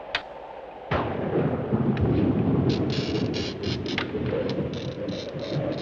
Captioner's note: thunder and glass scratch